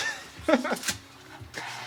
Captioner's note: giggling